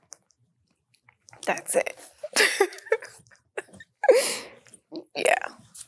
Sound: laughs

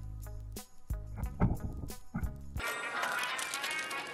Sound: bumping

